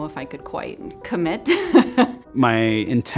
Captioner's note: laughs